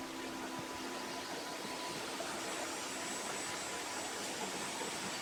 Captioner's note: water flowing